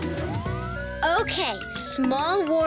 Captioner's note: siren wailing; upbeat music